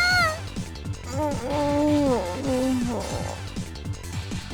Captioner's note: pained groan